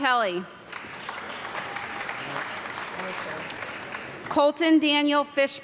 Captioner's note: audience clapping